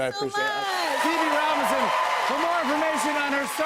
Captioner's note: cheers and applause